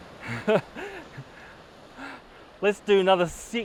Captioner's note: chuckles